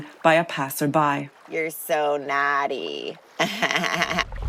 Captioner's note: laughs